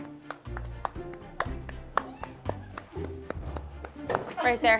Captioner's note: clapping